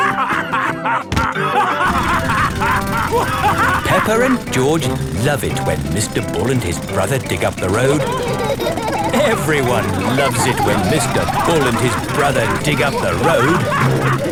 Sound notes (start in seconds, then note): 0.0 both laughing; 3.4 drilling; 9.0 laughing; 14.1 all laughing